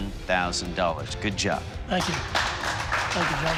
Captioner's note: applause